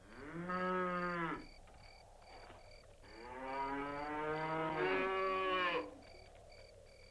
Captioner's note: cattle bellowing, crickets chirping